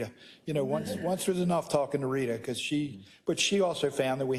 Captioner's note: laugh